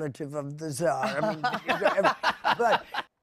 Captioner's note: laughter